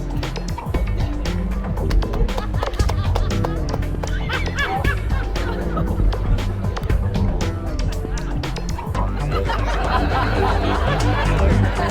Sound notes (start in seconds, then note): 2.7 audience laughing; 8.4 mellow music continues